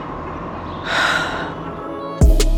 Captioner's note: sigh